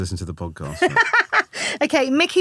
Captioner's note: laughing